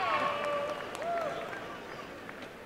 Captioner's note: applause and cheering